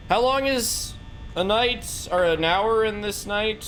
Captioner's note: none